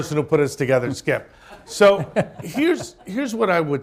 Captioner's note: laughter